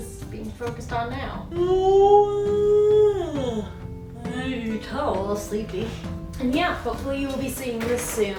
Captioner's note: yawn